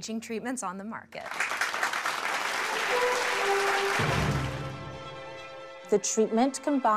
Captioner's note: applause